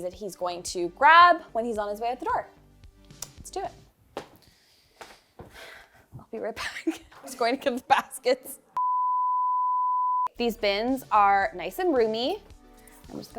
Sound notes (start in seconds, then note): 8.8 signal droning